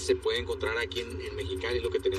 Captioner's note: speaking spanish